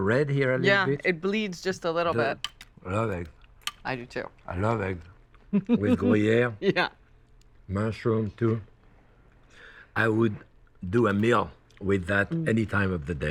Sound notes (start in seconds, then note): 5.5 chuckles